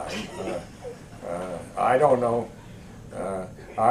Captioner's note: laughter